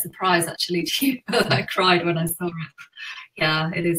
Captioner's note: laughing